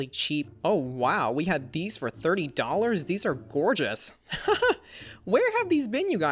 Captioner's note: laughs